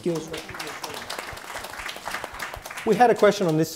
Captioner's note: applause